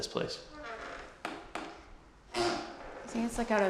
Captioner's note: floorboards creaking